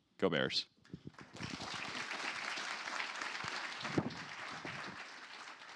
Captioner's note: applause